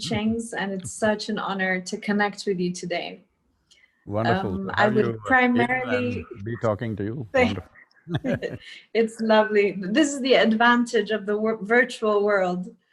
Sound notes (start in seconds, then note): 8.4 laughs